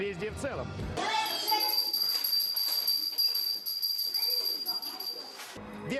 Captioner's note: bell sound